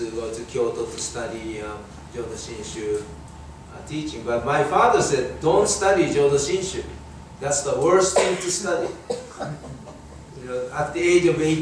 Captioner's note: audience laughing